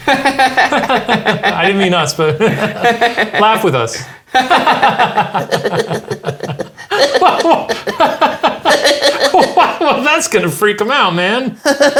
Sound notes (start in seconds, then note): 0.0 laughing; 2.9 both laughing; 5.9 laughing in silly voice